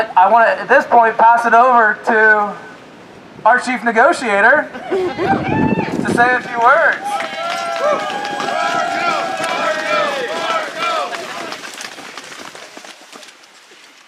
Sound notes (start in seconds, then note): 9.9 applause